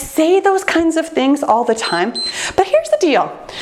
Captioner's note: timer beeps